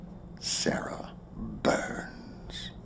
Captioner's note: chuckling